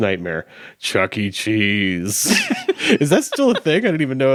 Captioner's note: chuckling